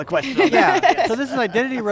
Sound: laughter

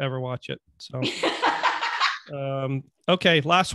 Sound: laughing

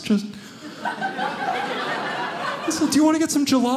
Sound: audience laughing

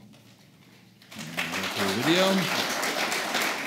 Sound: applause

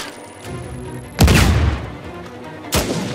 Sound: explosion

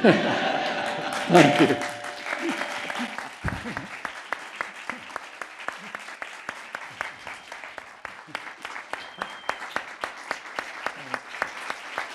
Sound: laughter and Applause

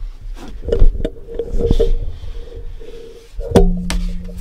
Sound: microphone noise

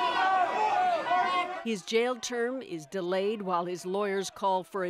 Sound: shouting

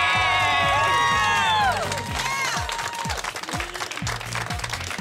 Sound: cheering and clapping

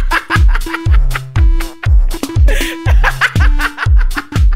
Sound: laughter; laughter laughter; more freakish laughter

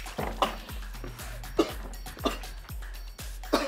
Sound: coughing

